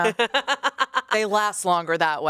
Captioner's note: laughs